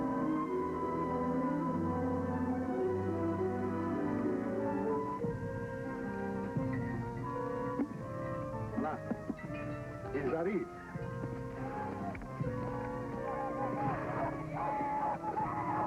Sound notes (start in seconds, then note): 9.7 speaking french